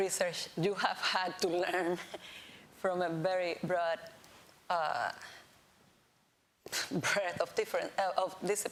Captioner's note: laughs